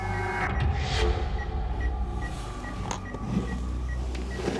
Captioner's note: ominous music; beeping